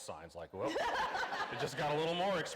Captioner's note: laughing